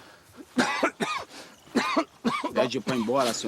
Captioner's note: cough